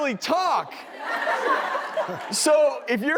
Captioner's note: crowd chuckling lightly